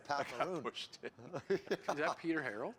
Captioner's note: laughs